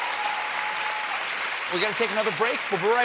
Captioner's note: applause